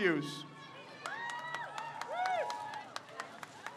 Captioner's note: crowd cheers